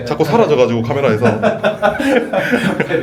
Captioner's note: laughs